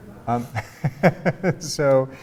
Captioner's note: laughs